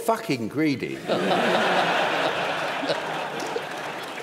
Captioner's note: laughter